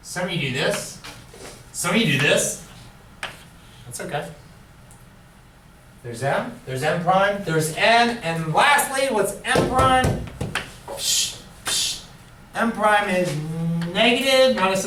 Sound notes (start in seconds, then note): 11.3 blows air